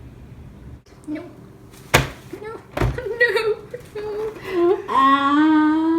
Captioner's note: cry